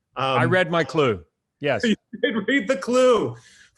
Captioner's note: laughs